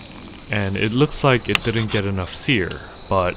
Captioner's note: searing